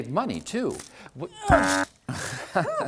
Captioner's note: thunk!; grunt; honk!; TINKLE sound